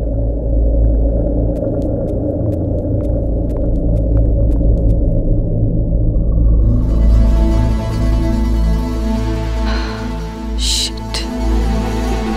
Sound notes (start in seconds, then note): 9.6 sighs